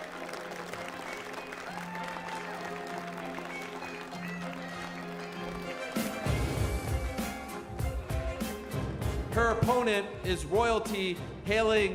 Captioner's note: applause